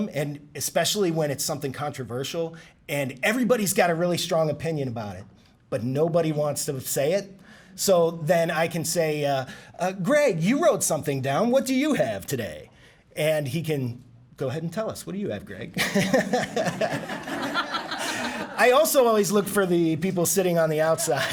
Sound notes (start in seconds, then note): 15.8 laughing